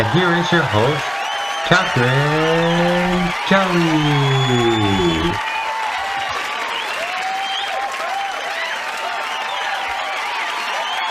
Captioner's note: applause